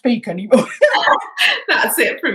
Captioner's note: both laughing